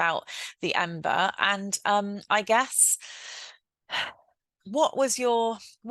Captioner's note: sighs